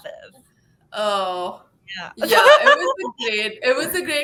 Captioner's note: laughing